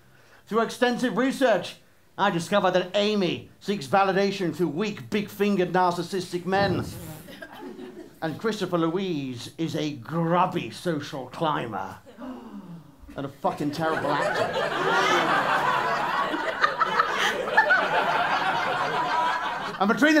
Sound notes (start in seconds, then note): 12.2 gasps; 15.9 laughter